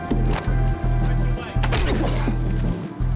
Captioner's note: groans